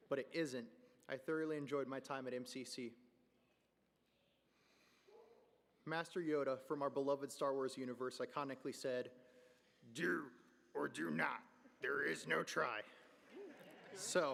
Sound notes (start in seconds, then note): 9.7 in Yoda voice; 13.2 laughter